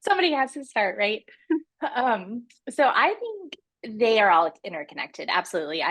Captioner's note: chuckles